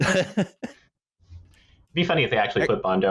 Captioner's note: laughter